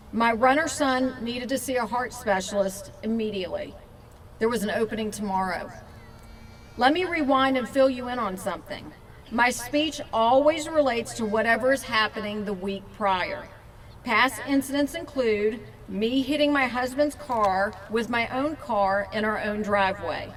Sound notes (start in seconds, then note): none